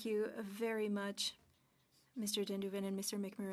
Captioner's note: speaking French